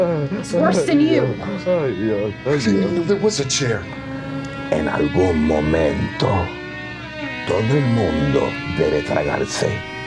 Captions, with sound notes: -He's worse than you. -I didn't even know there was a chair. [speaking spanish]